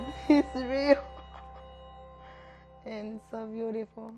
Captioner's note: chuckles